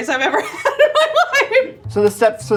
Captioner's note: laughing